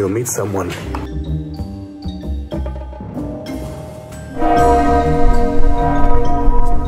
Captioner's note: quirky music; bell tolling